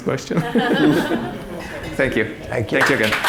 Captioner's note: audience laughing